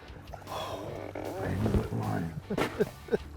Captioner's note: sighing; chuckling